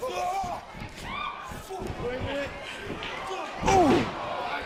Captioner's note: crowd chatter